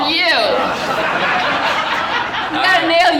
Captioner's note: audience laughing